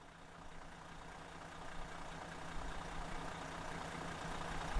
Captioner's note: engine idling